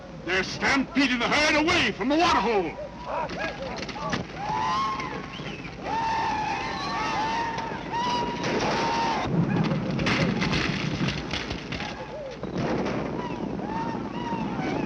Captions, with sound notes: They're stampeding the herd away from the water hole! [whooping, gunfire continues]